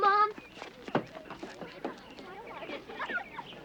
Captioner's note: chatter